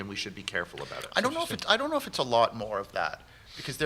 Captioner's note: none